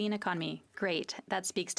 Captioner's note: speaking FRENCH